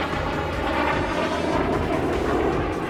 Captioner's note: aircraft noise